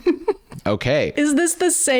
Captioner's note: laughs